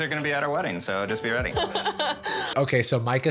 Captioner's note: laughs